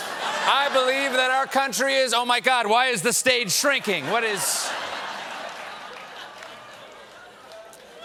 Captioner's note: laughter